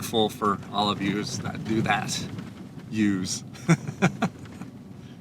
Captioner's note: laugh